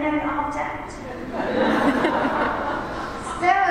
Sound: laughter

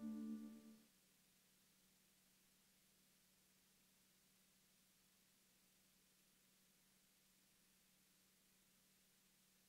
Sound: silence

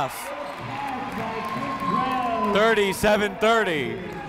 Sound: crowd cheering

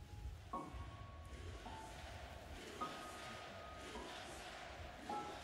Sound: crowd Chanting

